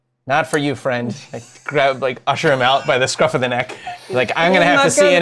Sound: laughs

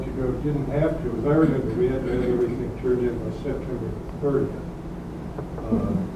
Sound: man speaking off mike

